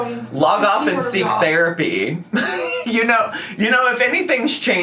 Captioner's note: laughs